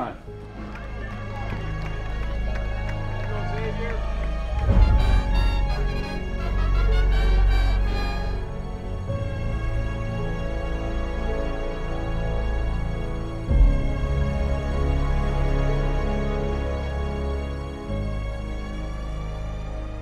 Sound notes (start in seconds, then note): 0.3 music intensifies; 4.9 brass band music; 4.9 cheering